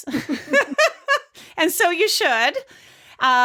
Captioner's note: laughing; laughs